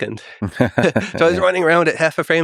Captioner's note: Tim and Lex laughing